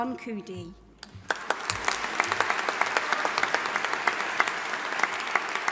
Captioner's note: audience applauding